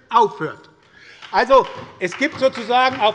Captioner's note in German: Beifall bei der SPD